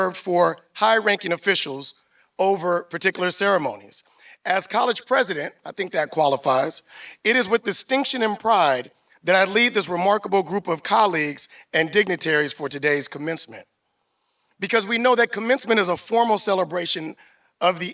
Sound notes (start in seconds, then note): none